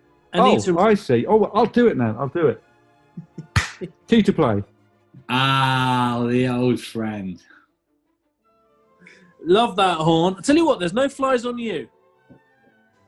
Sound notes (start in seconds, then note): 3.2 chuckling; 3.4 claps